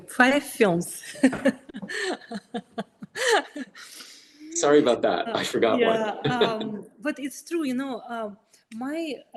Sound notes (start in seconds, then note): 1.1 laughing; 4.5 laughs